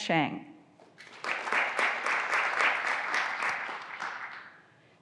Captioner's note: graduands applauding